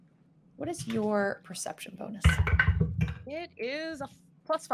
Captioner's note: dice rattling